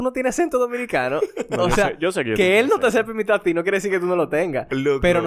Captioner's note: laughs